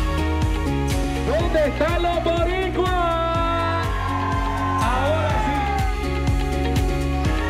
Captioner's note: cheers; crowd